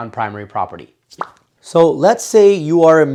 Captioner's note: pops